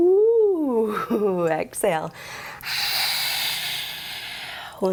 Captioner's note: laughs; hisses